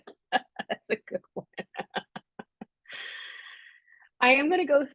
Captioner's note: laughing